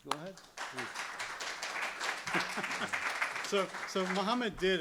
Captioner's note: applause